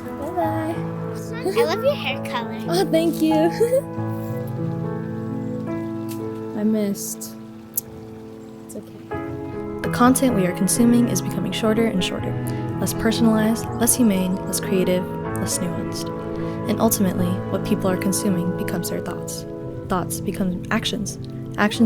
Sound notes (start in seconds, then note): 5.5 laughing